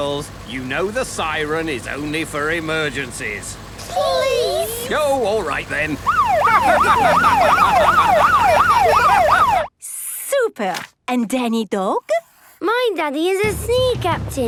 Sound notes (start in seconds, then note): 6.0 siren wailing; 6.1 laughing